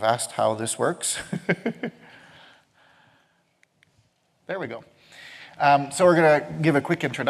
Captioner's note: laughs